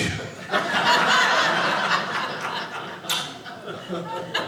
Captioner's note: audience laughing